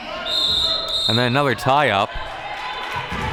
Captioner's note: whistle blows